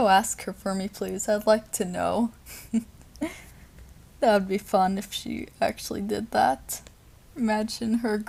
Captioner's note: small Laugh